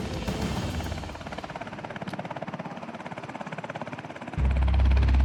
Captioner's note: helicopter blades whirring